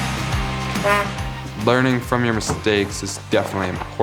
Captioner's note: horn beeps